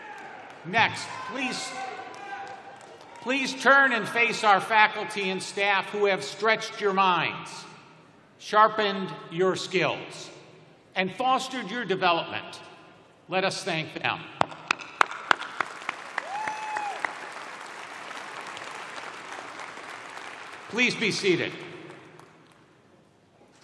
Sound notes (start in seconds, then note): 8.0 applause